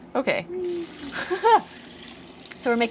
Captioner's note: laughter